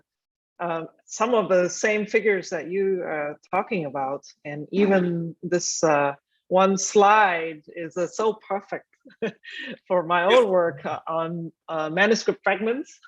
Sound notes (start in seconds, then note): 8.4 chuckling